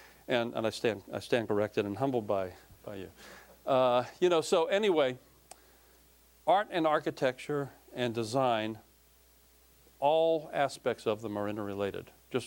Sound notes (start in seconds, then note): none